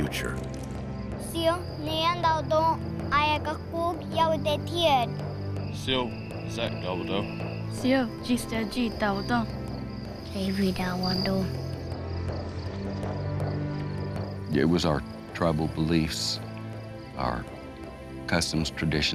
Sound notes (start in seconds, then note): 0.2 speaking Native language